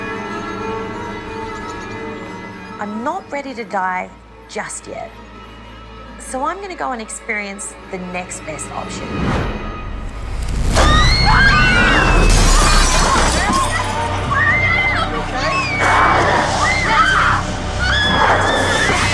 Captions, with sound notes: I'm not ready to die just yet, so I'm going to go and experience the next best option. [screaming] Ma'am, are you OK? [growling]